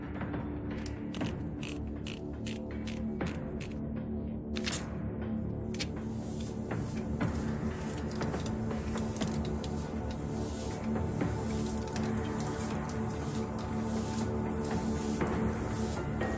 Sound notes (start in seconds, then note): 1.5 machine whirring